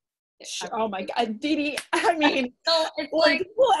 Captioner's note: claps